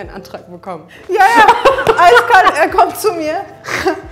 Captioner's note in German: Lachen